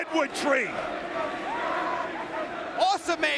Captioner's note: crowd chanting